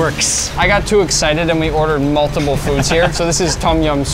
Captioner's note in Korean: 웃음